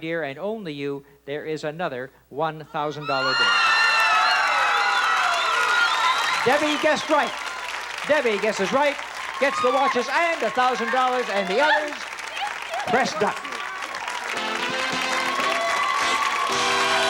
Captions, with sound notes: and only you, there is another $1,000 bill. (screams) (audience screams and applauds) Debbie guessed right. Debbie guesses right, gets the watches and the $1,000, and the others, pressed duck. (theme music playing)